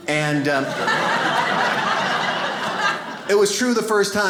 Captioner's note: audience laughs